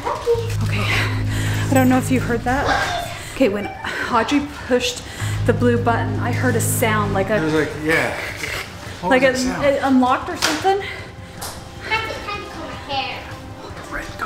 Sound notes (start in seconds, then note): 7.6 imitating electronic tone